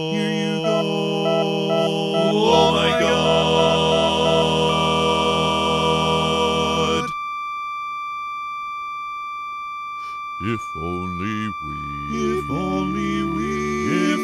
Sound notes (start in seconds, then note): 0.6 beeping faster; 5.1 flat-line